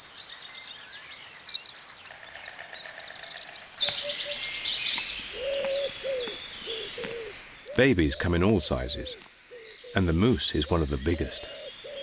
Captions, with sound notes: [distant bird calling] [distant animal calling] Babies come in all sizes, and the moose is one of the biggest.